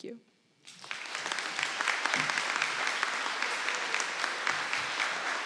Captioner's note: audience applauding